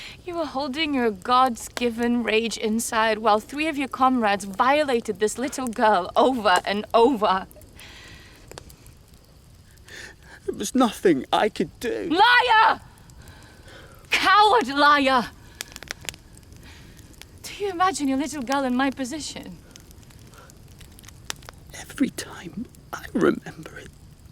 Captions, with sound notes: - You were holding your god's given rage inside while three of your comrades violated this little girl over and over. - There was nothing I could do. - Liar. Coward liar. Do you imagine your little girl in my position? (fire crackling) - Every time I remember it,